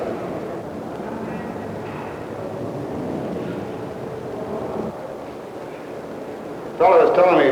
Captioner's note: indiscriminate chatter